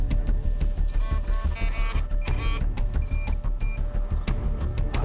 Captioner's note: beeping